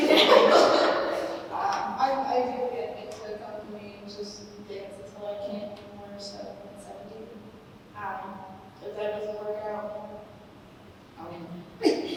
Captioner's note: laughter